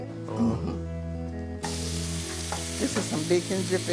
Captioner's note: sizzling bacon dripping